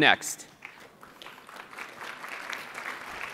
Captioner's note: applause